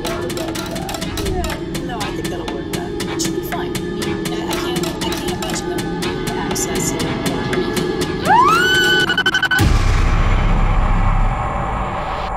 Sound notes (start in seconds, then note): 8.2 woman screaming